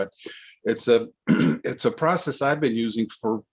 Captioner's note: clears throat